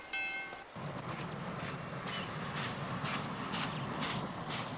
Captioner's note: train chugging